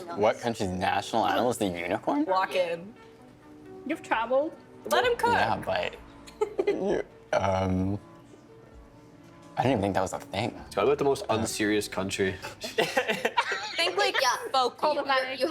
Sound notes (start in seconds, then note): 6.3 chuckling; 12.6 all laughing